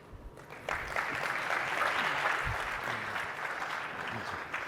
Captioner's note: audience applauding